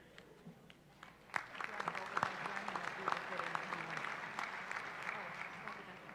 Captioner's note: applause